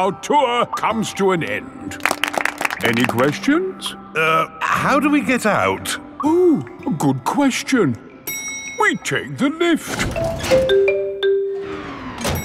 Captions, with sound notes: our tour comes to an end. (ALL CLAPPING) Any questions? Er... how do we get out? Oh, good question! -(ELEVATOR DINGS) -We take the lift!